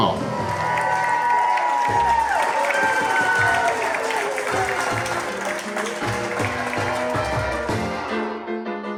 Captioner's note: crowd clapping and cheering